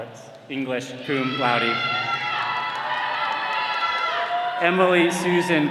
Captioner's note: all cheering